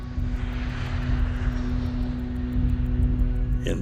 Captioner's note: tense music playing; clock ticking